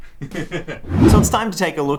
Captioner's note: laughter